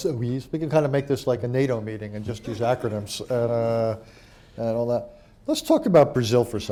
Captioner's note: laughter